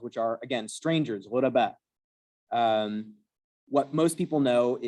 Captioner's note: non-english